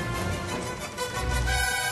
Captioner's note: galley creaking